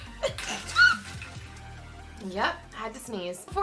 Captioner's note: sneezes